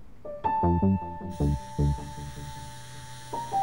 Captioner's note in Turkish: Telefon titriyor